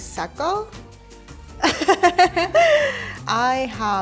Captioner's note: laughter